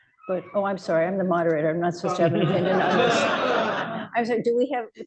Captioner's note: laughter